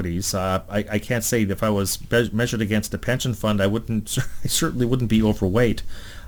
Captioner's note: laughs